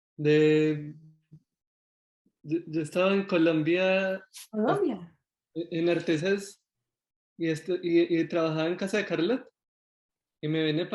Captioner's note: Spanish